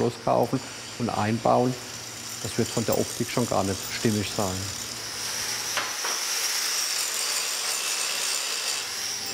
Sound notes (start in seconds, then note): 5.8 hissing